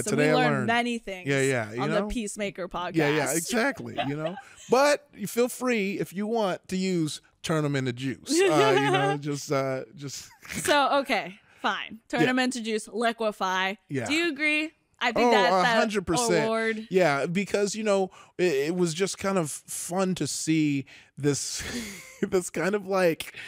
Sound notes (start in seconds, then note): 10.4 laughs quietly